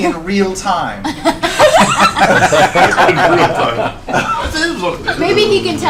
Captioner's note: all laugh